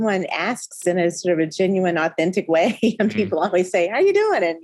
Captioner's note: chuckling